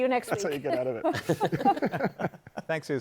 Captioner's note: laughter